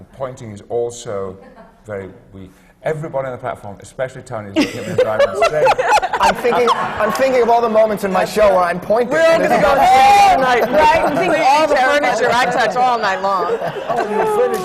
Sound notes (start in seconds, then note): 4.6 she laughs; 10.0 laughter